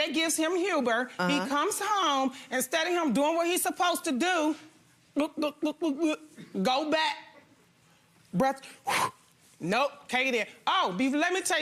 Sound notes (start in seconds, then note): 8.8 huffs